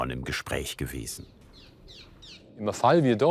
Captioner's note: bird calls